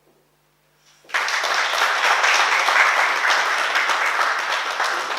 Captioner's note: oklaski